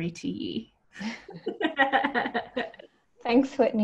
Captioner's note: laughs